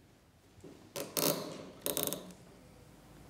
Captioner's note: creaking of the cap